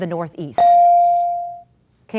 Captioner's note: ding